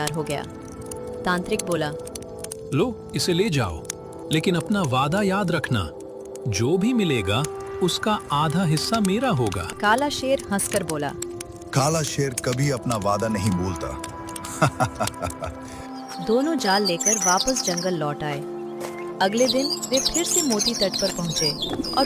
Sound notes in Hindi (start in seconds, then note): 14.4 हंसी